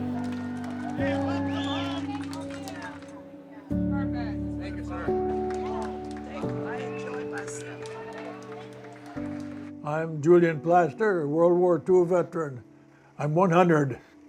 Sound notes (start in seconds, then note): 3.2 crowd cheers